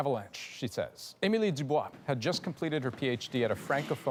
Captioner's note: speaking French